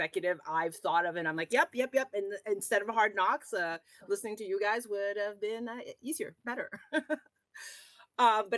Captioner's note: rires